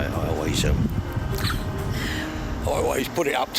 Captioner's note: chuckles